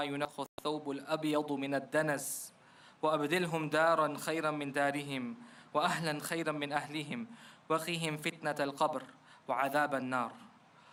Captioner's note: prayer in foreign language